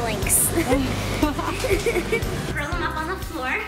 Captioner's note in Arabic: يضحك